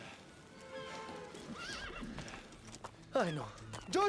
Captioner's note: horse whinnies